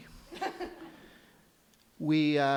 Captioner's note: light laughter